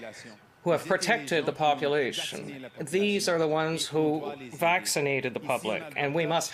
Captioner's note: speaking French